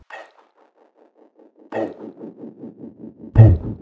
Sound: thumping noise

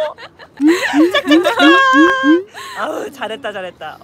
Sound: clapping

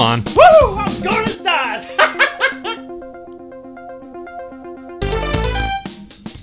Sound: laughter

